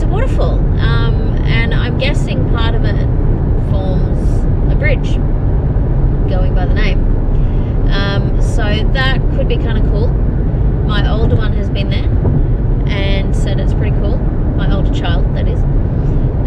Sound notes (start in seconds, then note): none